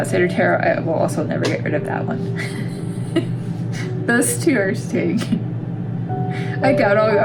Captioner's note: laugh